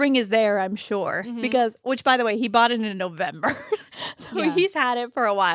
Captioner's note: laughs